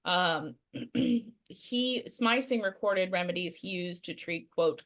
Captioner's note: clears throat